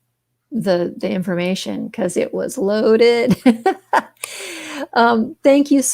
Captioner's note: laughs